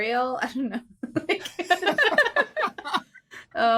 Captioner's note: group giggling